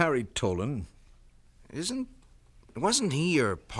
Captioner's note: none